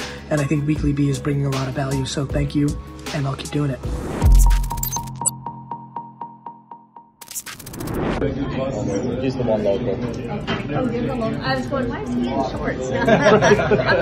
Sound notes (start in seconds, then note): 8.2 restaurant chatter; 13.4 laughs